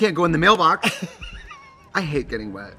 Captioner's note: Katya laughs